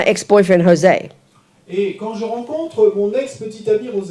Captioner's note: French